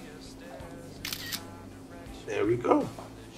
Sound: camera clicking

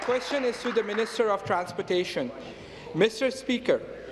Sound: applause

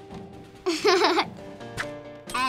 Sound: giggling

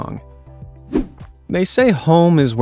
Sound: air whooshes

